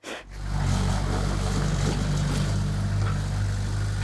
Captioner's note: engine rumbling